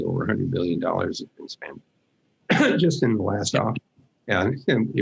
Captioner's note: coughs